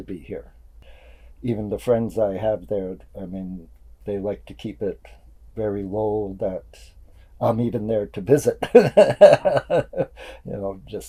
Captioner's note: laughs